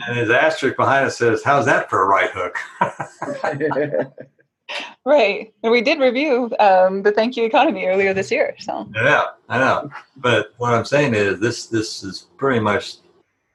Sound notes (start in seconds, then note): 0.0 laughing; 3.1 laughs; 3.5 laughing